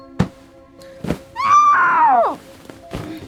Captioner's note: screams